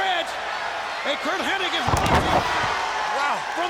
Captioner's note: body thudding